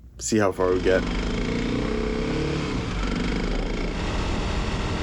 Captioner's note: motor running